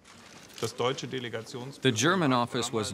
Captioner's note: german speech